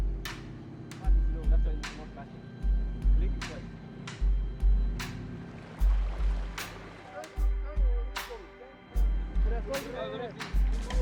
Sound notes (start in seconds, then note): 0.1 dramatic music; 3.9 men speaking in foreign language